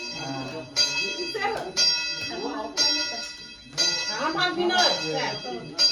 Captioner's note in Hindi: घंटी की आवाज़